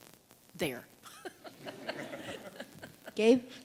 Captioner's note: laughter